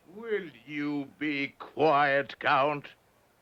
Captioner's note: none